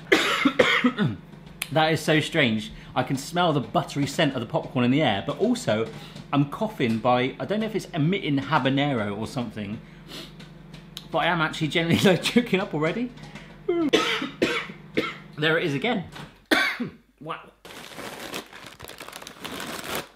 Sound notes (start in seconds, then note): 0.0 coughs; 10.0 sniffs; 13.7 coughs; 16.4 coughs